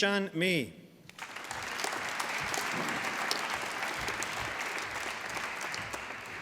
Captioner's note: applause